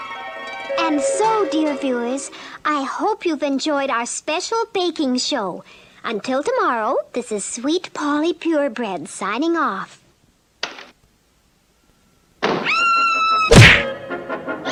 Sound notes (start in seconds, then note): 10.0 door Opens & then Closes; 12.6 Sweet Polly Screams; 13.5 smack!; 14.5 Sweet Polly Screams